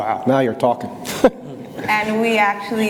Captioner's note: laughs